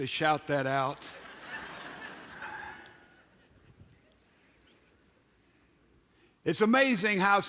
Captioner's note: audience laughs!